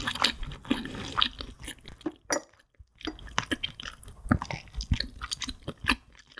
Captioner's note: chewy chewy